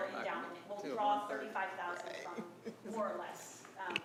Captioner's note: speaking quietly